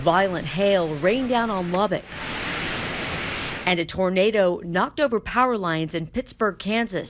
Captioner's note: sound of hail